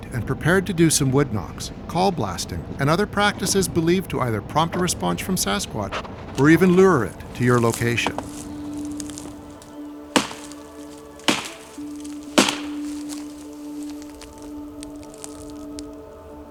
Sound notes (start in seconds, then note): 8.2 eerie music; 9.3 wood banging